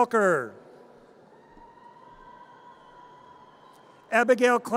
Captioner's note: audience cheers